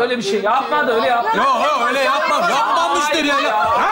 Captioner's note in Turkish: bağrışmalar